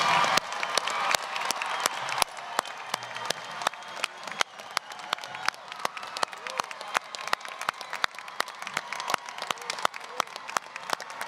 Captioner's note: applause, cheering